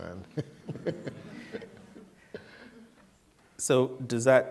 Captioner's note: laughter